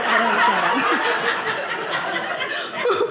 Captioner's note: audience laughing